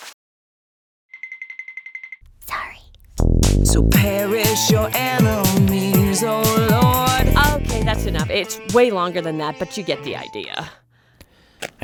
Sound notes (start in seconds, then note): 2.9 whispering